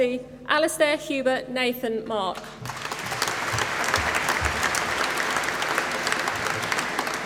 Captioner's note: applause